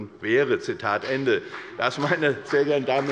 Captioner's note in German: Beifall bei der FDP